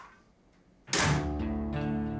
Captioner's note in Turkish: Kapı kapanır